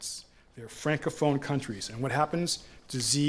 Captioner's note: french-speaking